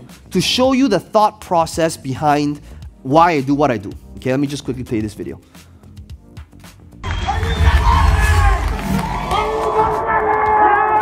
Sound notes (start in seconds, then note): 7.0 audience cheering